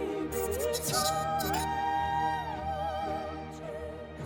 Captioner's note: robotic beeps